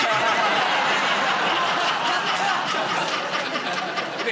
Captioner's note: laughter